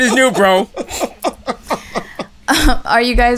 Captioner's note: laughter